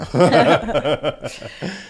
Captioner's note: laughing